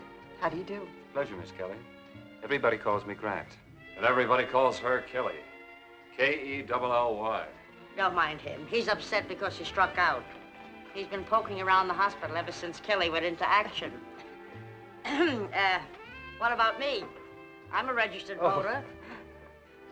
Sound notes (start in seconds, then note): 14.9 clears Throat